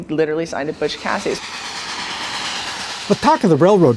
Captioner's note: train whistling